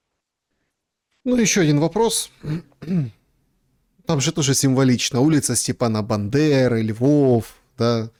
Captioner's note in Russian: откашливается